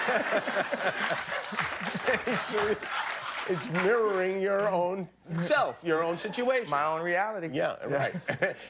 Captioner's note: laughter